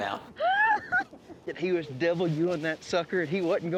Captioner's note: laughing